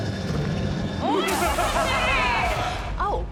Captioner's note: laugh maniacally